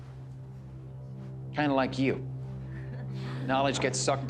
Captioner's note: chuckling